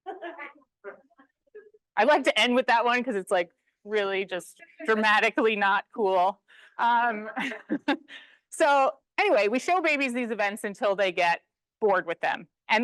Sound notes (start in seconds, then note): 0.0 attendees laughing; 7.4 laughs